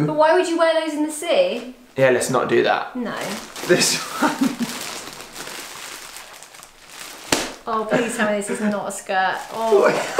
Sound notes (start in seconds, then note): 3.8 laughs